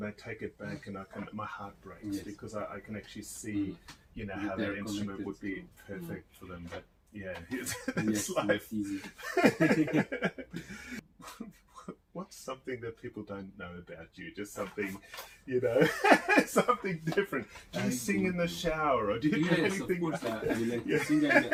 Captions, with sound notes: and my heart breaks beacause I can actually see how the instrument would be perfect for them, - Yes. (laughs) - What's something that people don't know about you, just something, you know, (laughs) something different, do you sing in the shower? - Yes, of course! I like to sing